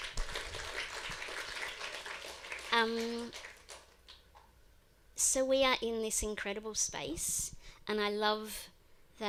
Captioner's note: applause